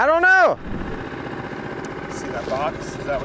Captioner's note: boat motor burbling